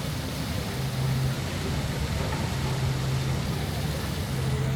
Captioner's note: water fountain pouring